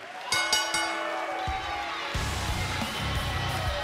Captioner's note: bell